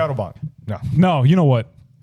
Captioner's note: speaking In Foreign Language